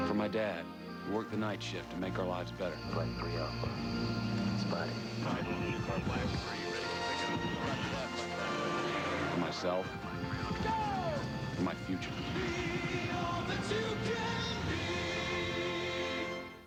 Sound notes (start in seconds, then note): 3.8 miscellaneous radio traffic